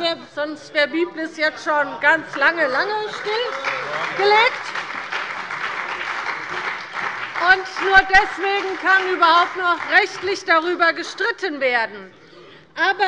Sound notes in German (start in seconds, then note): 2.2 Beifall bei dem BÜNDNIS 90/DIE GRÜNEN und bei Abgeordneten der SPD